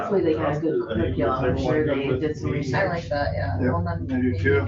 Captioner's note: overlapping chatter